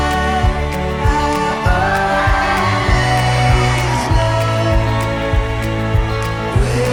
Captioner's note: guests cheering